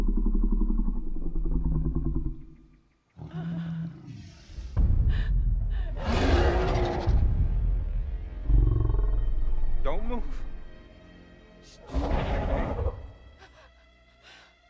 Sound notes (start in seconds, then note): 3.3 woman cries; 5.9 dinosaur growls ferociously